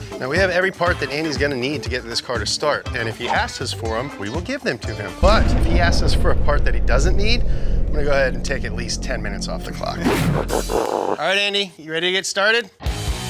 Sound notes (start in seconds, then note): 10.6 animal growling; 10.6 screen whooshing